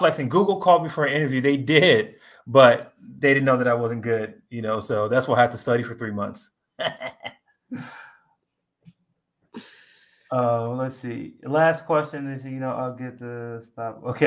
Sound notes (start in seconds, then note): 6.8 laughs